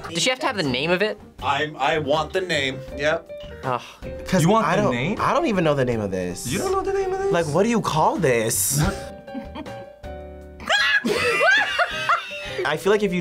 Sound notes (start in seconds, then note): 8.9 laughs; 10.6 both laugh; 10.6 screams